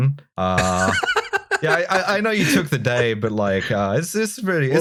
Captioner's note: laughter